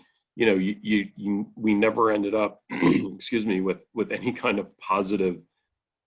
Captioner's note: clears throat